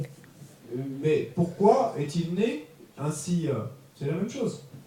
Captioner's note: French